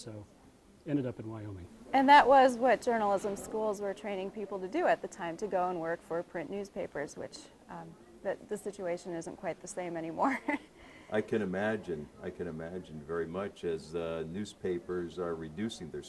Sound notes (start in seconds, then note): 10.2 chuckling